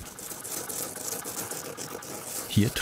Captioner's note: grating noises